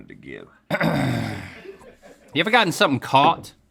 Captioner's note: clears his throat